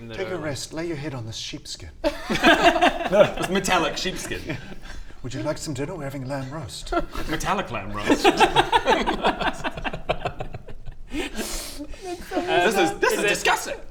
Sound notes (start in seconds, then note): 8.7 heartless giggles